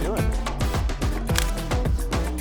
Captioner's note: camera clicks